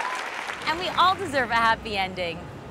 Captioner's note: applause